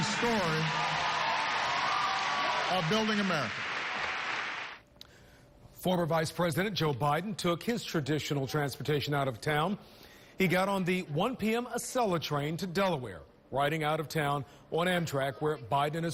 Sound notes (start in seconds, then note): 3.9 applause